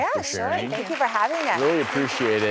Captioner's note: audience applauds